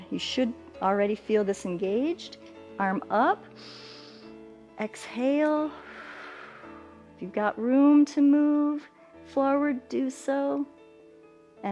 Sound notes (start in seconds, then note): 3.5 inhales; 5.7 exhales